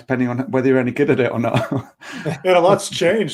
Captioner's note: laughing